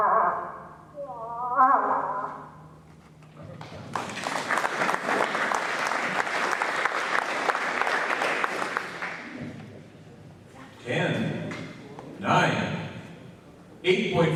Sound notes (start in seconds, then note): 3.5 applause